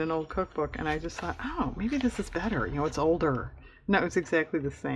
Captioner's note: laughs